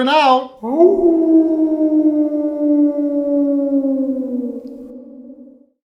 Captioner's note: wolf howl